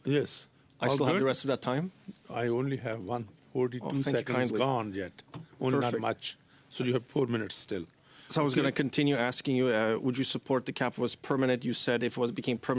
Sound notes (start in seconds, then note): 1.0 speaking French